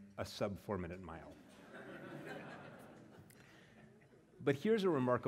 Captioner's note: laugh